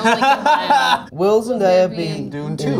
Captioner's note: Jacob laughs